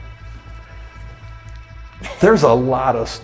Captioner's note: laughs